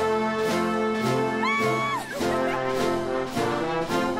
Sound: cheers and laughs

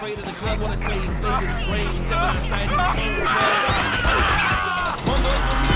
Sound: whimpering, screaming

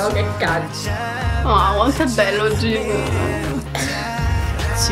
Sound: whines

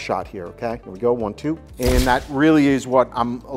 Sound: camera shuttering

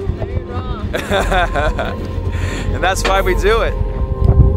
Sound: laughs

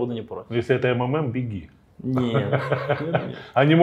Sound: laughs

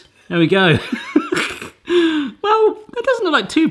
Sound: laughs

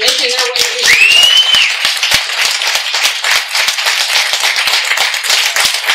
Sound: audience cheering and applauding

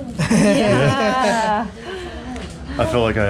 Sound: laughing

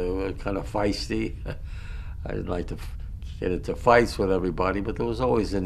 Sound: laughs

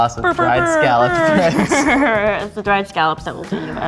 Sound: giggling

